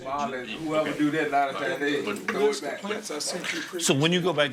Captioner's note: office workers conversing